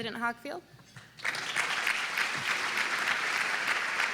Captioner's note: applause